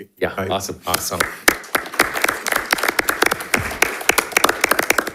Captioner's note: audience applauding